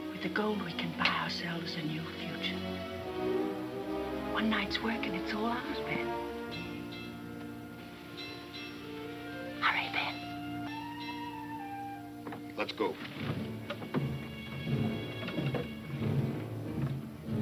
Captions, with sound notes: With the gold we can buy ourselves a new future. One night's work and it's all ours, Ben. (bell clanging) Hurry, Ben. - Let's go. (tense music)